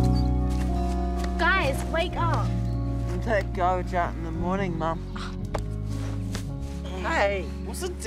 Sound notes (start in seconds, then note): 6.0 scoffs